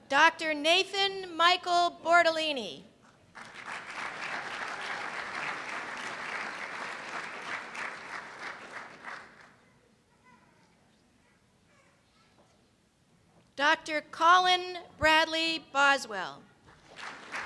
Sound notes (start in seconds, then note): 3.3 applause; 16.6 applause